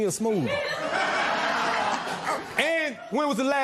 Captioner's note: laughter